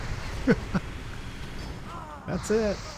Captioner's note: laughing